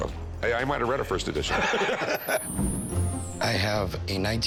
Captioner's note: both laughing